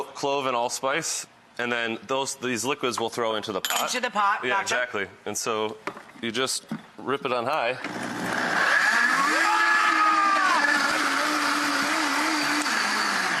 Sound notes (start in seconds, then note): 7.8 loud blender